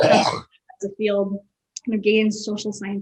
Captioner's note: person clears throat